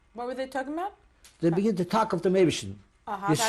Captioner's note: non-english